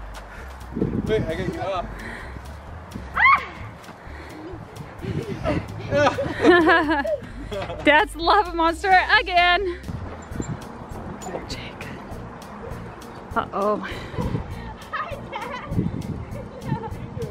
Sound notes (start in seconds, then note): 3.1 shrieking; 4.0 laughing; 16.2 laughing